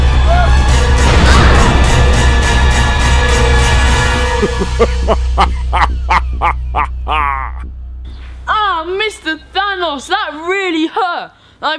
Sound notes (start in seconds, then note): 1.0 explosions; 4.2 laughs loudly